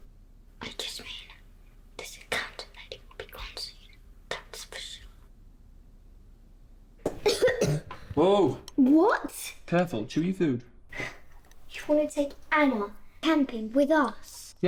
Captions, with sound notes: - I just mean, this accountant lady will be gone soon, that's for sure. (Lily coughing) - Whoa. - What? - Careful, chew your food. - You want to take Anna camping with us?